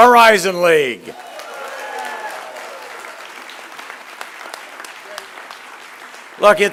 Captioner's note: applause